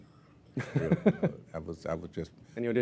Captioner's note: laugh